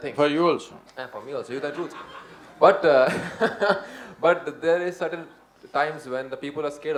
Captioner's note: laughs